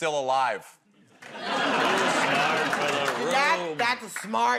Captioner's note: laughter